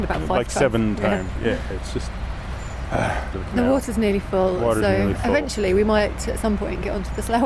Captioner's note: sigh